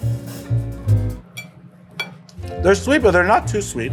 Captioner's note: glass clinking